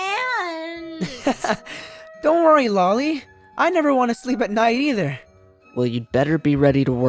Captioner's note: laugh